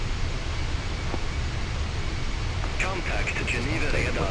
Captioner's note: radio chatter